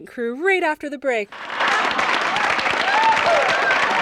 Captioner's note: audience applause